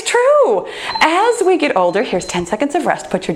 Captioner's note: timer beeps